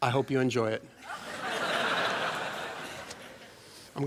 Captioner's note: laughter